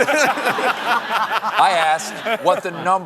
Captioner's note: laughter